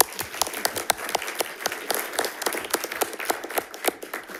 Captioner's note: audience applauding